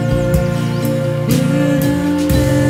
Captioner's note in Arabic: العصافير يغنون